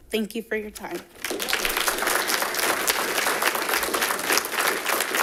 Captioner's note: all clapping